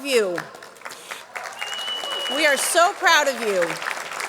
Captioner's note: audience clapping